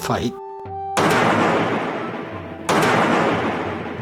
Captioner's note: loud thunk